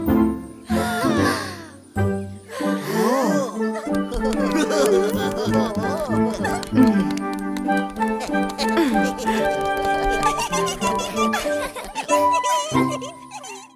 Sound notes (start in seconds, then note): 0.7 sounds of delight; 3.3 sounds of admiration; 5.3 applause; 7.4 applause; 12.3 laughing happily